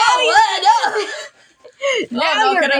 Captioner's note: both Laugh